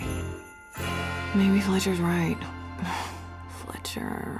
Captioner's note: sighs